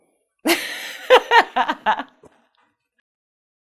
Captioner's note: laughs